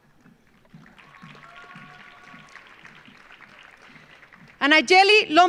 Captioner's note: audience applauding